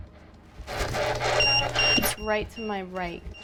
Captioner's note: EMF beeping; spirit box voice